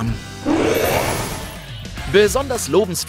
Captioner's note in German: Böses Grollen